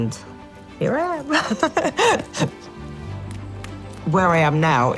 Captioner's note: laughs